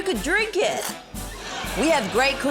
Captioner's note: splutters